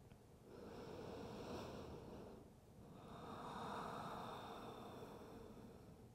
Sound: breathing

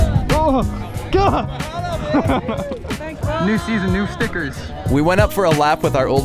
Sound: upbeat music continues; laughs

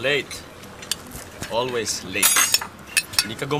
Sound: utensils clanking

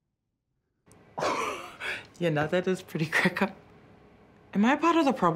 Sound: chuckles

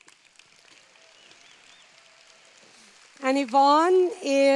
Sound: applause

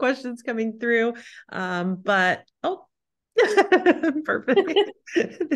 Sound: laughs

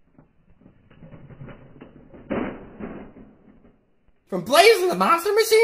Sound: crashing

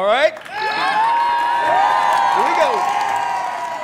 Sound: loud cheering

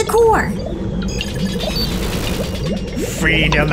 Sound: nervous chatter

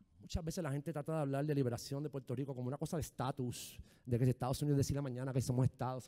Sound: speaking in foreign language

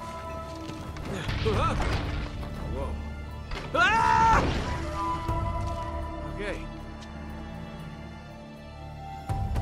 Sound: screams

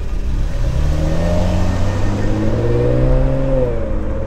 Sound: car engine revs

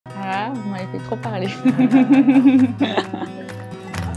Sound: laughs

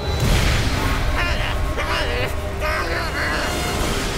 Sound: grunting in vain

